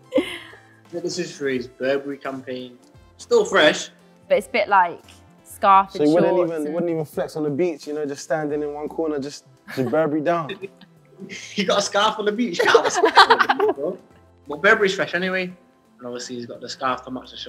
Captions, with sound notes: I think this was for his Burberry campaign. Still fresh! But it's a bit like...scarf with the shorts? You wouldn't even flex on the beach? Standing in one corner, Burberry'd down [laughs] You've got a scarf on the beach? You can't have a scarf on the beach! Burberry's fresh anyway, and obviously he's got the scarf to match the shorts.